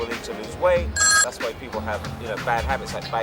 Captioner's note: phone ringing